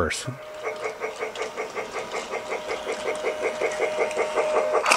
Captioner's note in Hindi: स्टीम ट्रेन चगिंग की आवाज